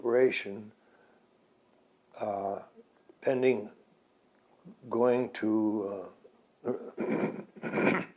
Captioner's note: clears throat